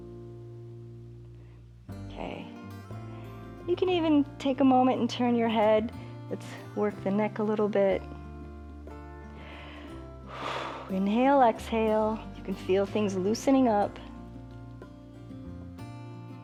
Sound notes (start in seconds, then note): 9.2 inhales and exhales